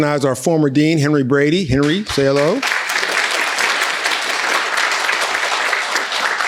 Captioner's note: people applauding